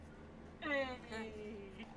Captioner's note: also unconfortable noises